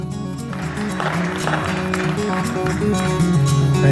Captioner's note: applause